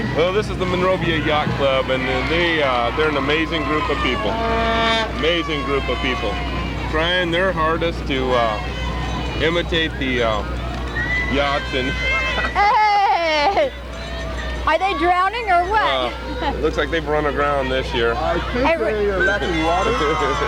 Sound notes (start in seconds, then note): 12.2 chuckles; 15.9 laughs